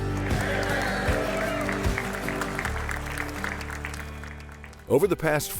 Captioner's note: audience applauding; upbeat music